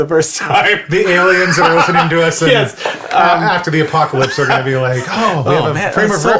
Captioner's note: laughs